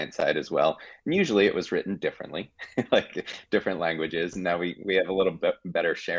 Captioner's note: chuckling